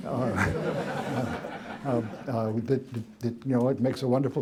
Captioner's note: laughter